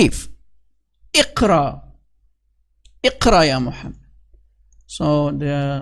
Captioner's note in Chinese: 念阿拉伯语